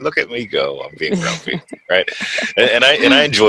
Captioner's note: laughs